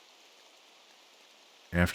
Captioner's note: silence